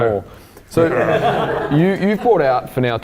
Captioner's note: audience laughing